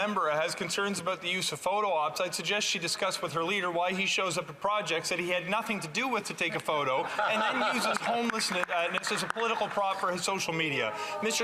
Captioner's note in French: voix de l'interprète